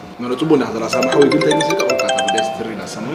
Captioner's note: phone-ringing